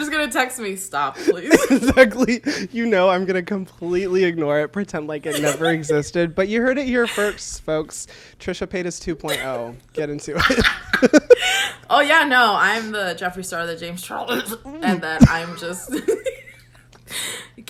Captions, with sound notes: - You're just gonna text me, "Stop, please." - Exactly, you know I'm gonna completely ignore it, pretend like it never existed, but you heard it here first, folks. Tricia paid us 2.0, get into it. (both laugh) - Oh, yeah, no, I'm the Jeffrey Star of the James Charles, and that I'm just (laughs)